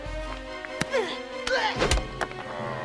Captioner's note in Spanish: Drogo gruñendo; guardia gruñendo